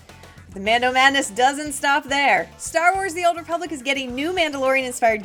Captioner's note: none